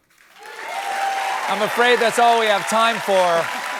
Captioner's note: cheering